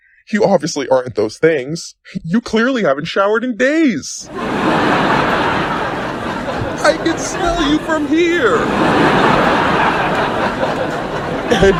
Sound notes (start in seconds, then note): 4.2 audience erupts into laughter; 8.7 audience guffaws even harder